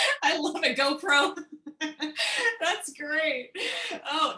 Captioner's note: laughter